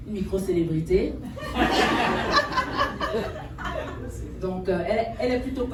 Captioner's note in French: rires